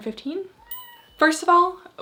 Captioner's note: bell dings